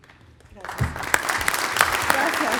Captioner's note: applause